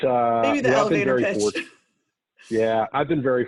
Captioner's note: laughs